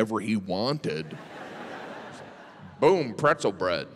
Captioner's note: audience laughs